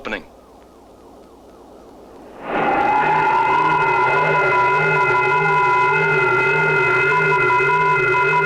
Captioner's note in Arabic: هدير الرياح; صوت صفير القمر الصناعي